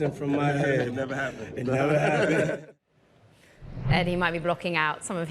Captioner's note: laughter